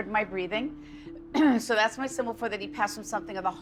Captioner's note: coughs